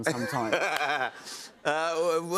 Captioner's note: laughter